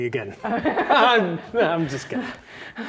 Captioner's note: laughing nervously